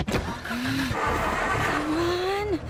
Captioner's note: engine stalling